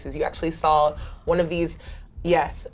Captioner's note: gasps